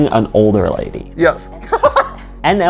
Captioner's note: laughs